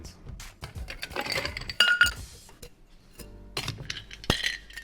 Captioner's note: ice clinks; thuds